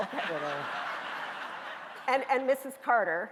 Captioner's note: audience laughing